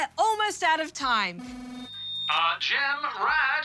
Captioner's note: trilling, screeching